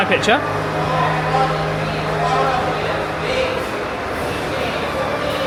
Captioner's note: crowd chattering